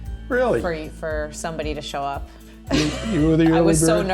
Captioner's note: laughs